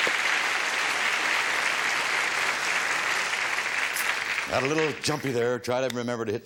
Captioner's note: audience applause